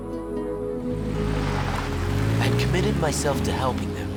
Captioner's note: car engine rumbling